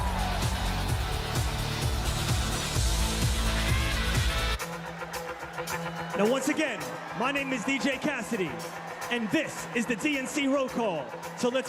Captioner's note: cheers and applause